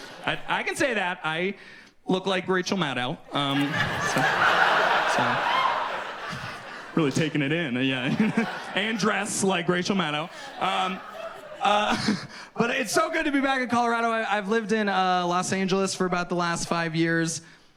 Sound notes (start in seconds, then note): 3.8 audience laughs; 12.9 laughs